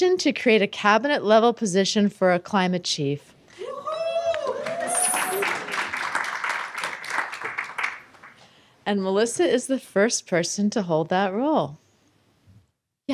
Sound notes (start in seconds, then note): 4.3 applause